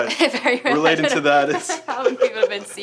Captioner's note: laughs